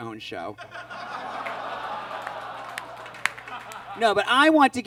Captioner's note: audience groans